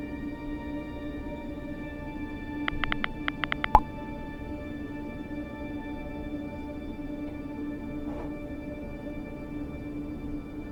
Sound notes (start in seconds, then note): 2.7 typing sound